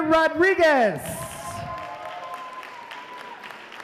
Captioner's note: applause